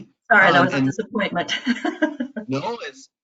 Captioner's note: laughs